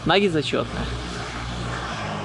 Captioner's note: none